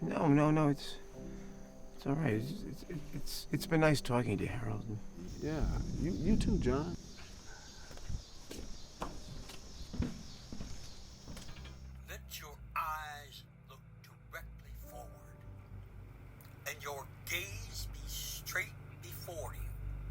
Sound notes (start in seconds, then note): 2.5 poignant music continuing to play; 8.3 footsteps receding